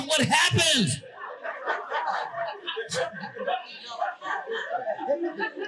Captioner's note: audience laughing